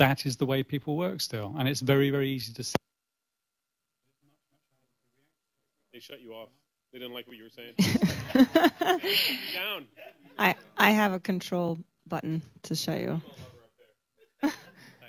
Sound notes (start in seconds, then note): 7.8 laughter; 7.8 laughs